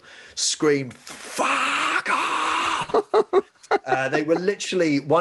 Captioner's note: laughing